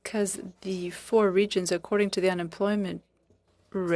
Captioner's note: speaking French